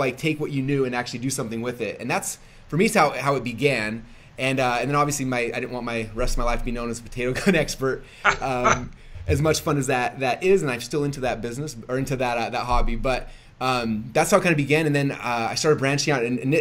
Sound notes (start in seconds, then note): 8.2 laughing